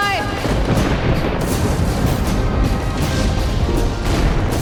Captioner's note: explosion